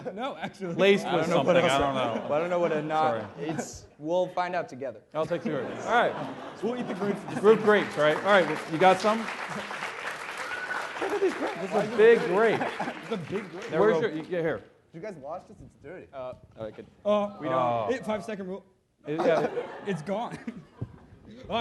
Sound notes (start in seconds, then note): 9.4 applause